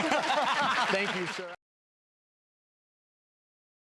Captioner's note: laughs